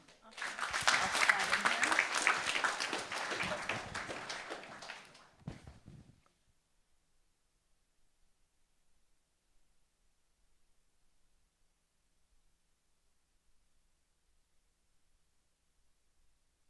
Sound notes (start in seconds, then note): 5.9 applause